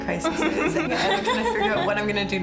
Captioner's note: laughs